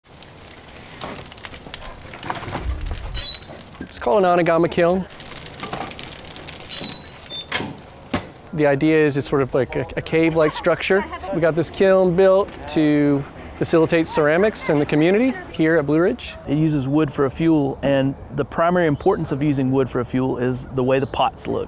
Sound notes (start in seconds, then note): 0.0 fire crackles; 2.4 door squeaks; 6.6 door squeaks, then latches